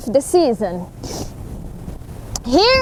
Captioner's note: sniffles her nose